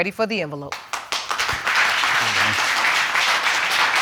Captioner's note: audience applauding